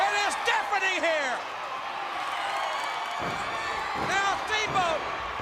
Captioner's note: crowd cheering